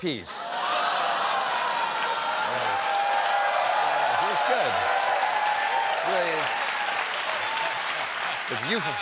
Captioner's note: cheers and applause